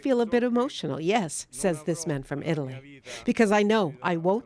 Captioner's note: speaking alternate language